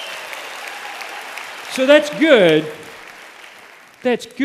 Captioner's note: applause